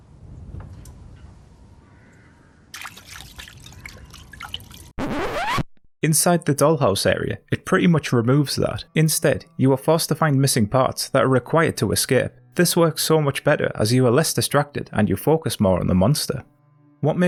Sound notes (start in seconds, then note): 2.7 water Splashes; 5.0 record scratch sound effect